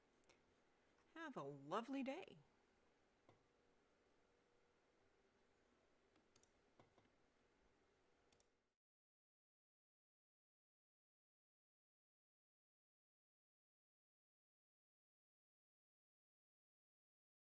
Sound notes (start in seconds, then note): 6.7 silence